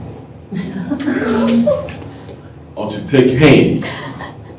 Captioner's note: laughter